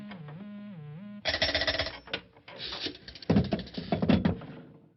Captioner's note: bell ringing